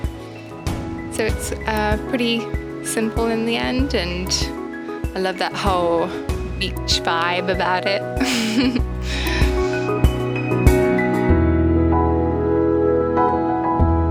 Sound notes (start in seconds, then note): 8.2 laughs to herself